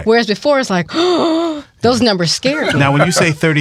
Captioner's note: gasps